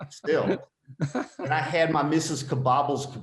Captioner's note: laughing